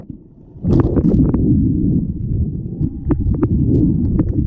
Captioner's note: splash into water. Under water sounds